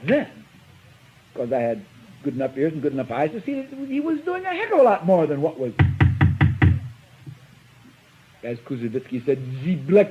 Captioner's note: taps table